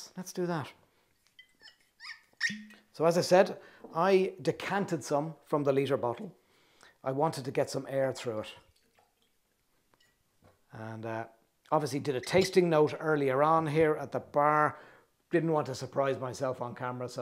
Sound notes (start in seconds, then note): 1.3 cork squeaks in bottle